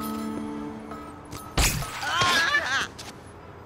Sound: yells

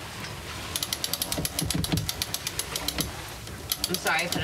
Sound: pulley ratcheting

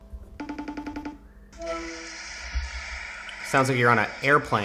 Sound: phone rings

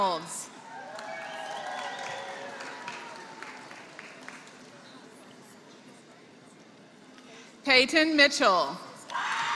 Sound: applause; applause

